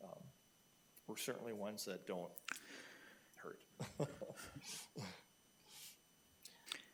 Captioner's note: chuckles